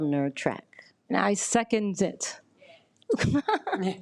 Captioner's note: laughs